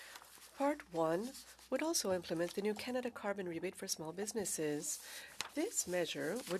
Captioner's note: speaking French